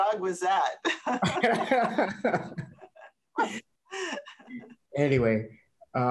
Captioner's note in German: laughter